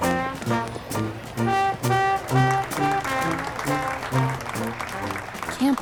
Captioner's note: music playing, applauding